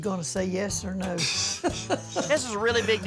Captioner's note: laughter